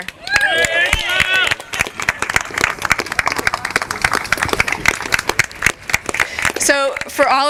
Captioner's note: applause